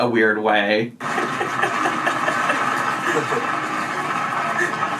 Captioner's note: laughing